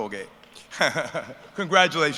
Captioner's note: laughter